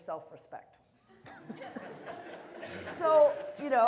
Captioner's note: laughter